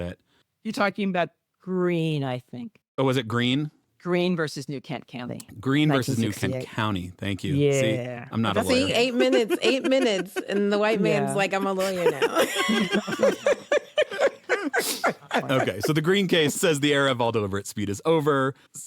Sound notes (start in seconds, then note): 15.5 everyone laughs